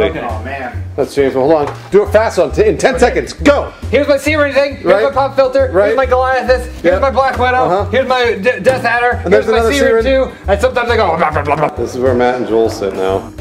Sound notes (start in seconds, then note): 8.4 stutter